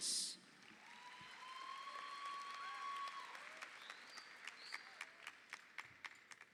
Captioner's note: audience applauds; audience cheers